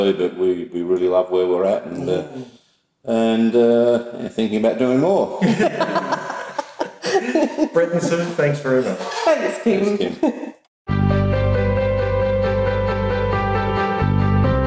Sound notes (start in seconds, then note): 5.4 all laugh; 10.9 piano and string music